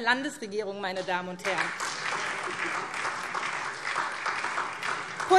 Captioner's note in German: Beifall SPD